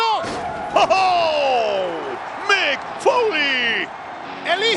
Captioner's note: laugh